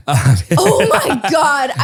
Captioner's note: laughs